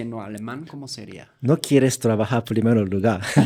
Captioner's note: laughs